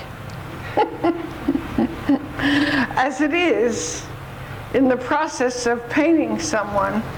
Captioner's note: laughs